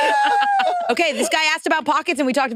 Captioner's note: participants laughing